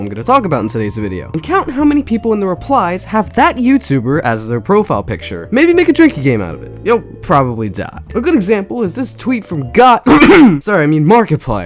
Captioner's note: clears throat